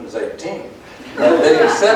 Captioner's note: laughter